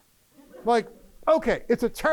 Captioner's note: laughter